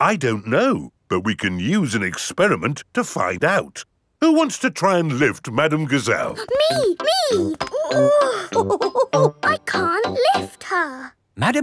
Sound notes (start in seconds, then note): 7.3 chuckles; 8.1 straining